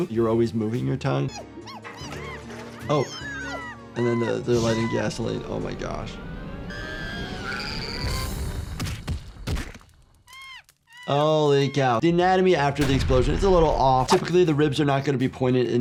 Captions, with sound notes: You're always moving your tongue. (ants squeaking and yelling) Oh, and then they're lighting gasoline, oh my gosh. (anteater screaming) (explosion booming) (ants squeaking) Holy cow. The anatomy after the explosion, it's a little off. Typically, the ribs are not going to be pointed